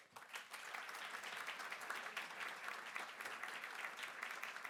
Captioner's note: audience applauding